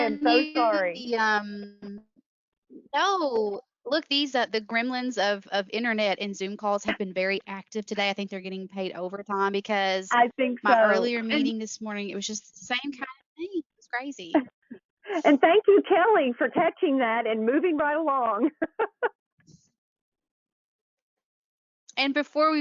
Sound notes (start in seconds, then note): 10.4 chuckles; 21.4 laughs